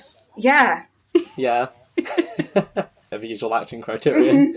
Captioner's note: laughs